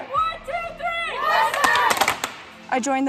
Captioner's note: team shouting